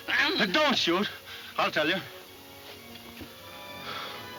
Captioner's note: sighing